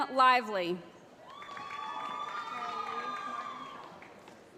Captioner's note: cheering